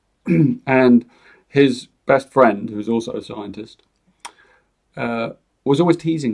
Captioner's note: clears his throat